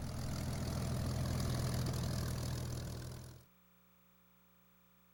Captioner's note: engine puttering